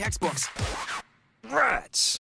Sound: record scratch

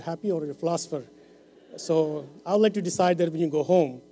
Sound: laughter

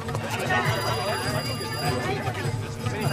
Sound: speaking foreign language

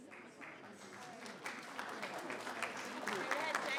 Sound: applause

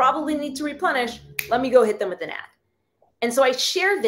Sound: finger snaps

